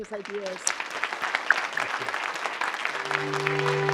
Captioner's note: applause